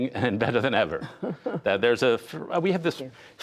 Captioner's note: laughter